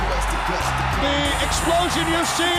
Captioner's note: crowd cheering